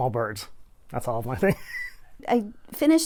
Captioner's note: laughs